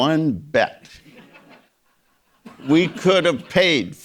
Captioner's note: audience laughing